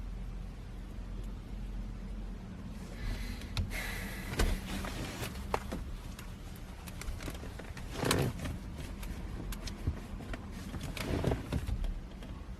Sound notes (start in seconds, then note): none